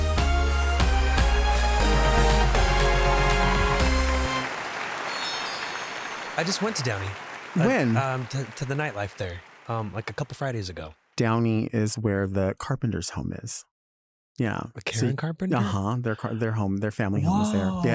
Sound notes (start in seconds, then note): 3.5 audience applauding